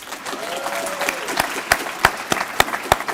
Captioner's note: applause